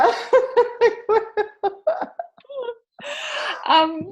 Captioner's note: laughing